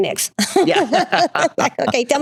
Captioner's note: both laughing